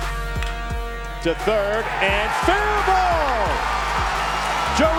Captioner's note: voiceover